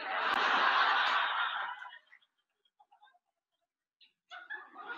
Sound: audience laughing

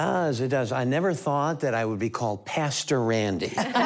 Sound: laughter

